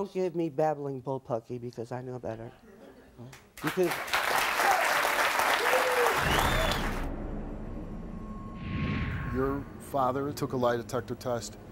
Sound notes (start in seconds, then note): 3.5 audience applauds